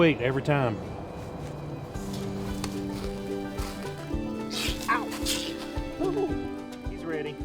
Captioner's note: possum hissing